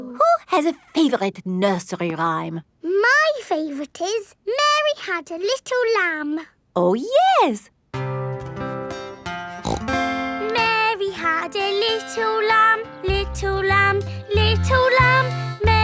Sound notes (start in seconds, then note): 7.9 playing guitar; 9.6 snorts